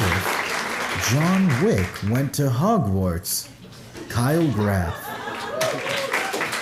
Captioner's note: applause